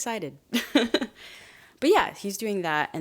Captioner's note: chuckles